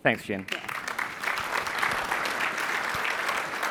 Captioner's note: applause